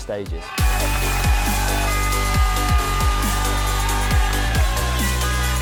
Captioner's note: upbeat music; crowd cheering